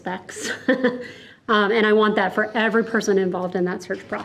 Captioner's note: chuckles